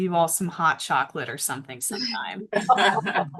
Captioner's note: multiple laugh